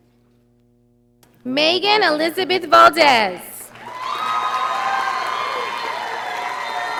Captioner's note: audience applauding